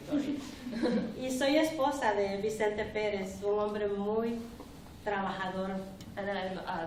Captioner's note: speaking spanish